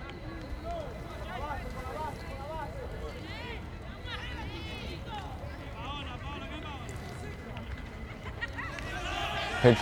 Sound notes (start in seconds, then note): 2.4 players yelling in foreign language